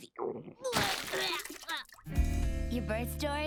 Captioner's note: gagging